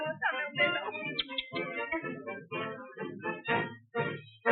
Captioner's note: speaking Spanish; kissing